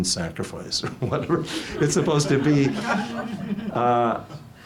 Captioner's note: audience laughs